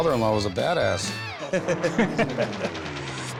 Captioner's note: both laugh